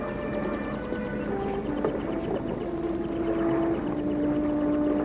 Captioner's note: birds chirping; mysterious music